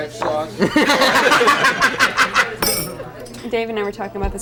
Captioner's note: everyone laughs